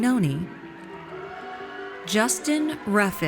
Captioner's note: audience cheers